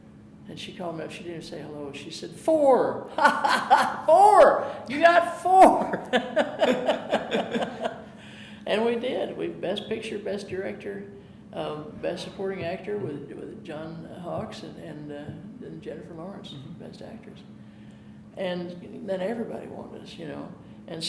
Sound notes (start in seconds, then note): 3.1 chuckling; 6.1 laughing